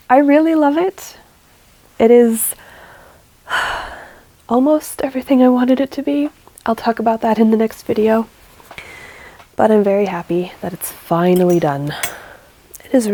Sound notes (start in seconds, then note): 2.5 sigh